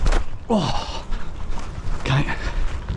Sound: grunts

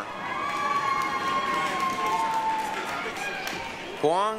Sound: applause, cheering

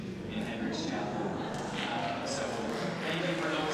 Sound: laughter

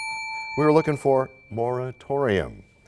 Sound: bell rings, time expires

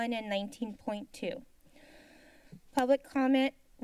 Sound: silence

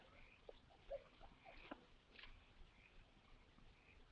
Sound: frogs croaking

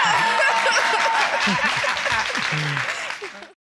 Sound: audience applauding

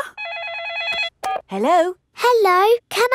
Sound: phone rings

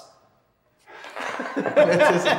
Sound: laughter

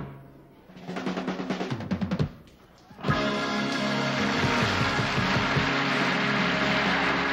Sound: crowd cheering

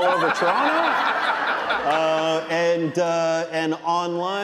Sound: audience laughing

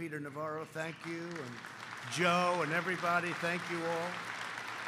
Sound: applause

